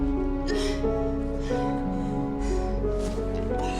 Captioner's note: grunts